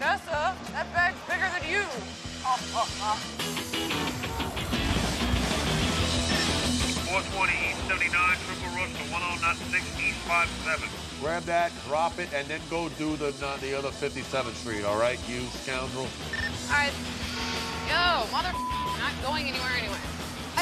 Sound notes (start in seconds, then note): 8.3 Bill over radio